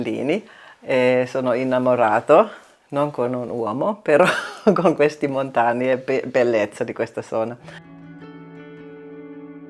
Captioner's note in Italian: risate